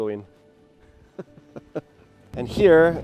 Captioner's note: laughs